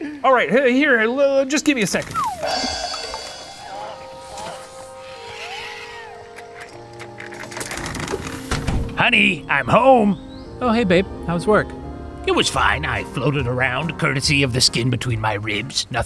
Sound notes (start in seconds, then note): 2.2 cymbals crashing; 4.2 background noise rattling; 7.4 curtain drawing